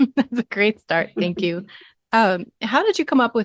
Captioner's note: laughing